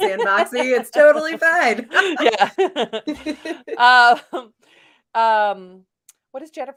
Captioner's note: laughing